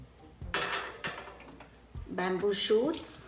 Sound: dishes clinking

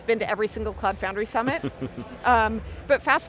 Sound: laughing

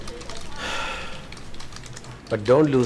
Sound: man sighing

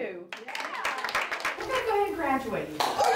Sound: applause

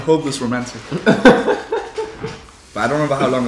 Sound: laughs

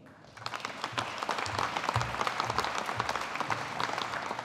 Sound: audience applauding

